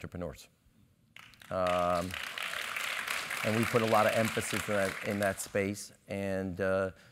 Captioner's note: applause